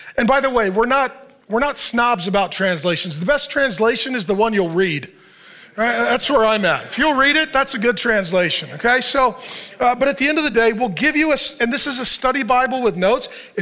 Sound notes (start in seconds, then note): 5.8 congregation laughs